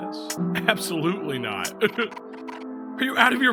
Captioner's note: laughs